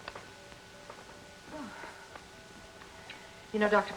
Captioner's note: sighs